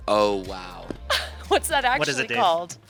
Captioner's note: chuckles